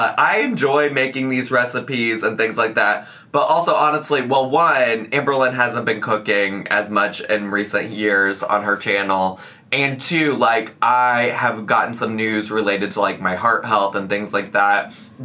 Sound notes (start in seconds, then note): none